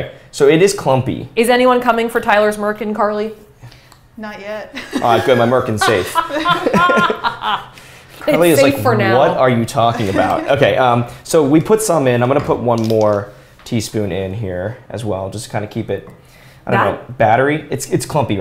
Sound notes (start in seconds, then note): 4.7 laughs; 7.6 laughter